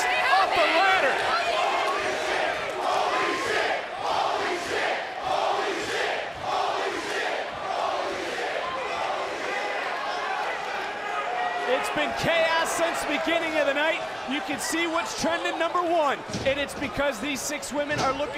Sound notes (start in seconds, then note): 2.7 crowd chants